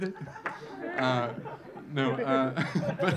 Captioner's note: audience laughing